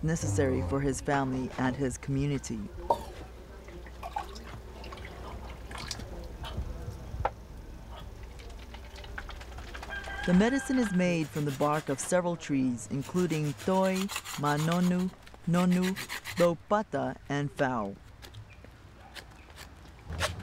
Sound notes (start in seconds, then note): 4.7 water splashing